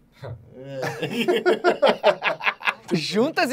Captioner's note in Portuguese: risadas